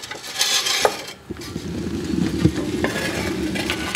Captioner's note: hissing